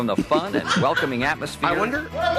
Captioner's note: laughs